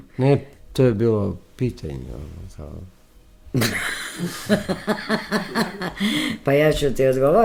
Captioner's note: laughter